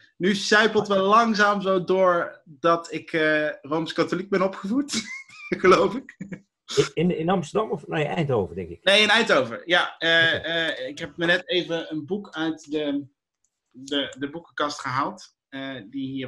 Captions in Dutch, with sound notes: Leuk hé. Nu sijpelt wel langzaam zo door dat ik Rooms katholiek ben opgevoed geloof -ik. (gelach) -In Amsterdam of nee, Eindhoven denk ik? Nee, in Eindhoven. Ik heb net even een boek uit de boekenkast gehaald die hier